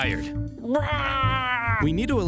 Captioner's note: Scipio the Younger cheers